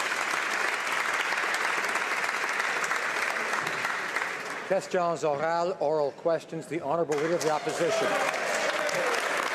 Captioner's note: some Applause